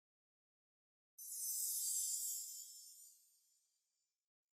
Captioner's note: logo shimmers